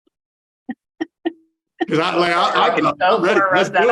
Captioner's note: laughing